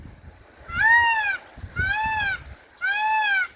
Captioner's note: sound of a peacock